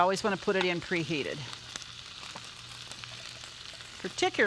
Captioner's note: sizzling